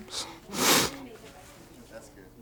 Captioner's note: sniffs